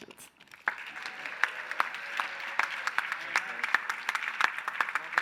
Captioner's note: applause